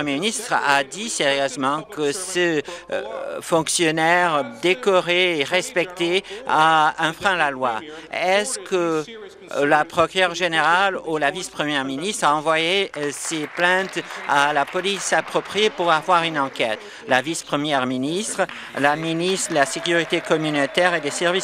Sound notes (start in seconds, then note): 18.0 applause